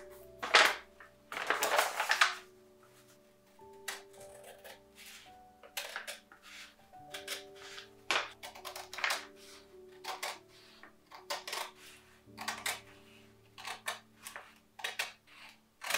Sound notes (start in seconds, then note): 1.2 loud paper rustling; 3.3 crunchy paper cutting